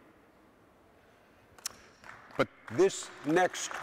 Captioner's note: audience applauding